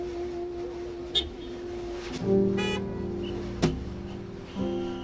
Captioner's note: gentle jazz music; car horns beeping; whistle blowing